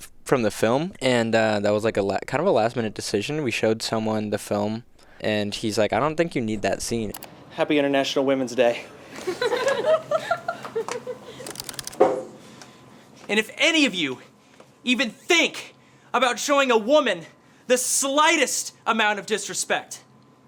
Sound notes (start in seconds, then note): 9.0 people laughing